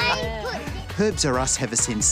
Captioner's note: laughs